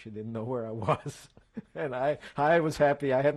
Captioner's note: laughs